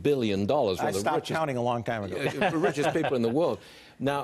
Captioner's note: laughter